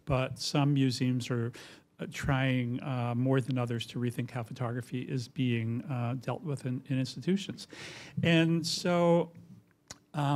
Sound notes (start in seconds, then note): none